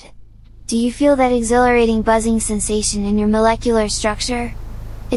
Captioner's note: air buzzing with electricity